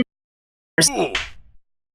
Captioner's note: Minecraft hurt sound